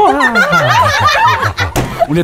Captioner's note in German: wispert; Kreischendes Lachen